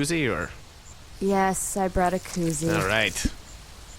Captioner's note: squelching sounds